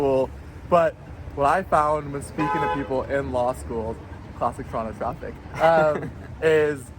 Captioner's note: car honking